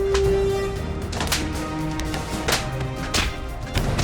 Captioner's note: gun cocks; blows thud